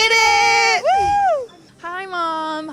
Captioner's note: cheering